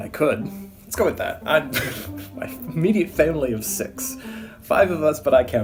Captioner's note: laugh